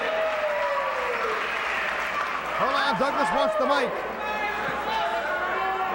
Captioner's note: crowd cheering